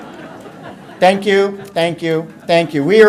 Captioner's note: audience laughter